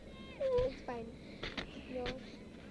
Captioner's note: whimpers